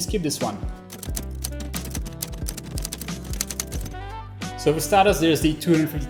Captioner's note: keys clacking